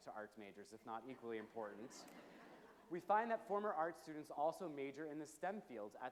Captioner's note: low chuckles from audience